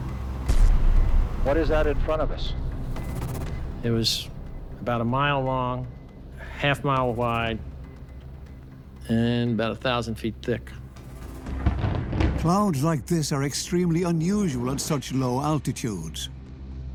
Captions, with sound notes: (man over radio) What is that in front of us? It was about a mile long, half mile wide, and about a thousand feet thick. Clouds like this are extremely unusual at such low altitudes.